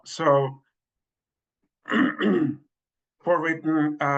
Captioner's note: coughs